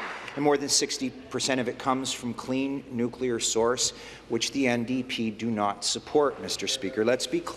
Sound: applause

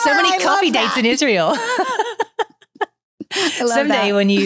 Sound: laughs

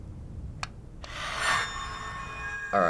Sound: haunting noises

